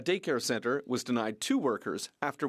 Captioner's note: speaking French